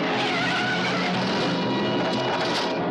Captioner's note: tires squeal